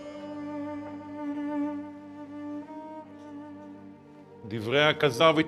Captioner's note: speaking in Hebrew